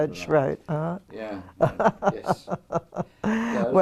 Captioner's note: laugh